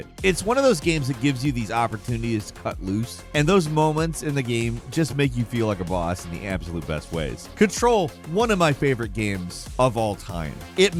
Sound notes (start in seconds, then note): none